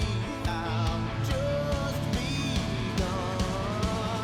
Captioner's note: crowd cheering